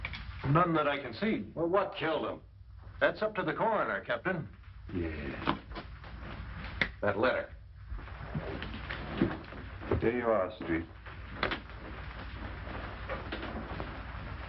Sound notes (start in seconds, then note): none